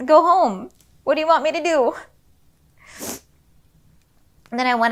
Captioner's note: sniffles